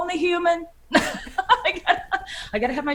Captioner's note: laughing